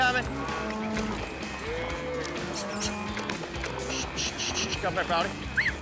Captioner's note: cattle moo, whistling